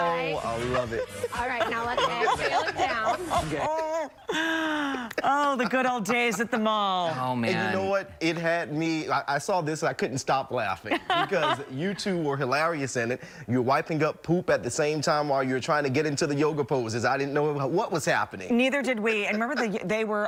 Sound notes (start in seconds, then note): 5.9 laughter